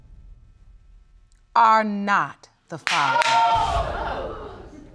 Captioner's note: audience exclaims